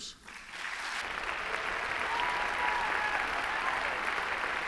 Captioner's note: applause